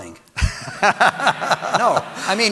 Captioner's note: audience laughing